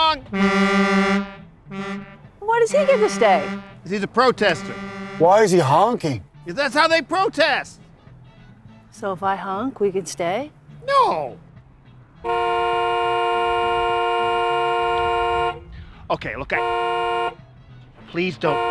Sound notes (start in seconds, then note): 1.6 honking; 12.2 honking